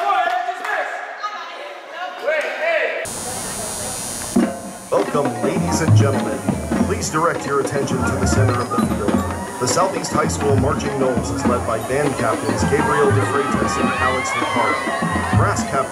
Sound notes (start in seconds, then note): 3.0 60 Hertz Buzzing of Manatee High School's Obcenely Loud Lights